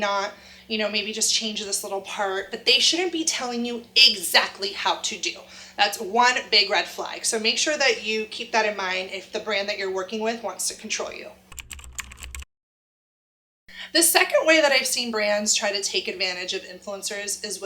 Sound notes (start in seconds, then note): 11.5 computer keys tap